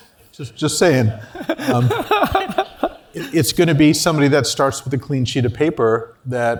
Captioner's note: laugh